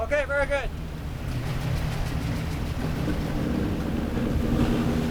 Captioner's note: boat engine roars